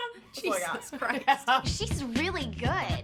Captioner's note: hosts laugh